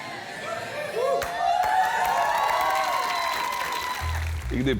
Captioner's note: applause